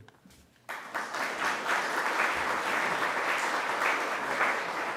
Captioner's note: audience applauding